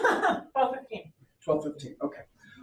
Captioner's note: laughs